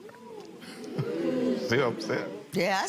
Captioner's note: audience murmurs